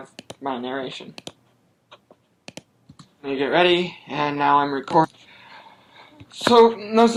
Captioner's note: recording plays back